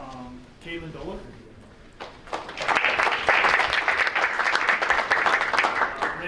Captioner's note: audience applauding